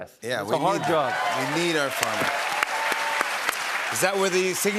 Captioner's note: cheers and applause